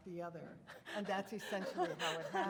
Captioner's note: laughing